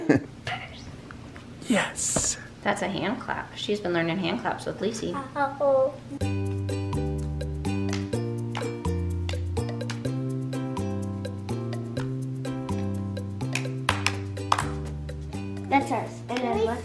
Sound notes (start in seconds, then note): 0.0 laughs; 6.9 playful music; 7.9 girls clap hands